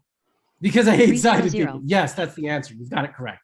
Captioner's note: giggles